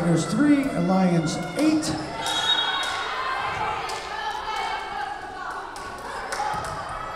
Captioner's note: whistle blowing